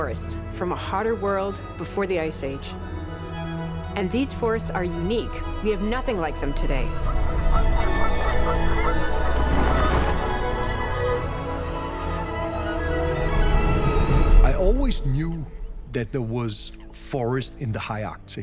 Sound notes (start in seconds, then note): 7.0 geese honking